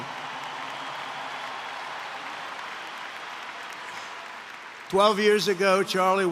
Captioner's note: applause